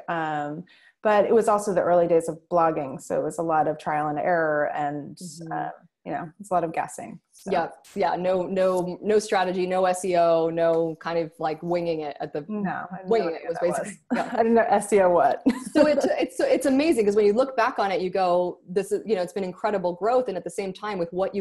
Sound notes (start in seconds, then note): 15.4 laughs